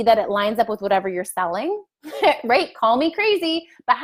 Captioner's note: laughs